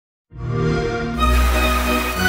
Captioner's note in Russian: Звук XBOX